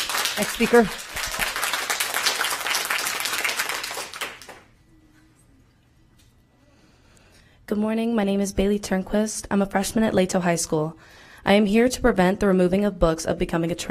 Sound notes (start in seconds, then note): 1.9 applause